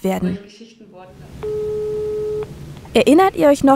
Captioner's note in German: Telefon klingelt